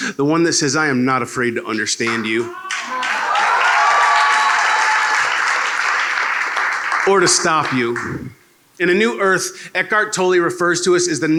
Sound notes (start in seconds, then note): 2.6 applause